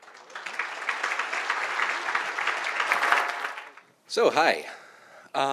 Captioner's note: audience applauding